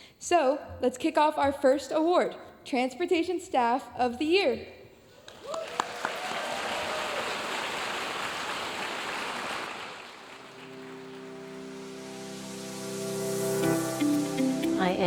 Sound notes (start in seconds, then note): 5.2 audience cheering and applauding; 10.4 bright music